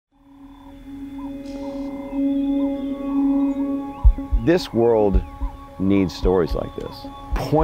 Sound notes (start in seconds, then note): 0.1 birds chirping; 0.1 gentle music